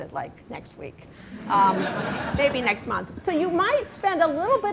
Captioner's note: laughter